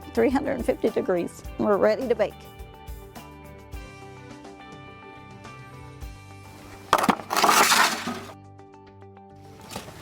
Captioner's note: rustling; scraping noise